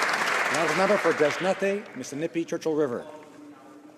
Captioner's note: some Applause